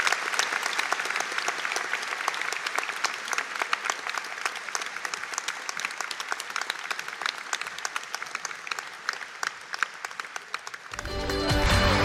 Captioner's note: audience Applause